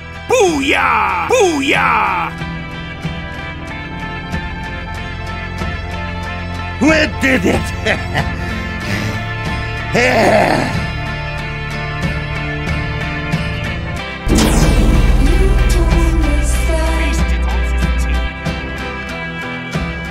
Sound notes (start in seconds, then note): 8.3 heavy breathing